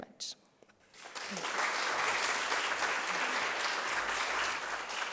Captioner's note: applause